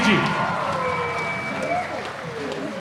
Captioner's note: applause